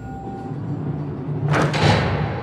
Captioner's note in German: Hallendes Türschließen